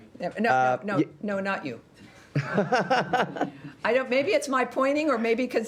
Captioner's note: laughter